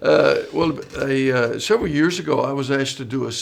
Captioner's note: laughing